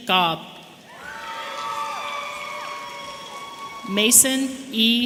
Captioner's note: audience cheering